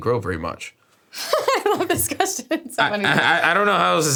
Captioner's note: laughs